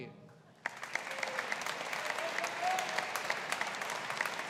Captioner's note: audience applauding